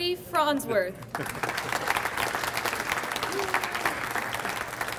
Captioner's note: audience applauds